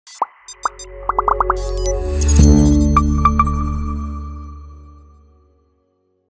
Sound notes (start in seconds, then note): 0.1 electronic music; 1.0 icons popping